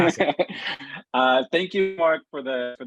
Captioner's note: laughs